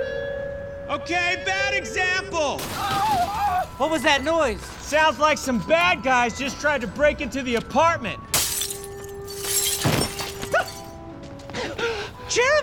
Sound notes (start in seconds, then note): 2.6 crashing; 8.3 breaking glass; 11.5 gasps